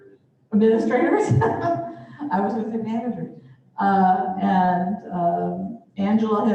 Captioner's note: laughter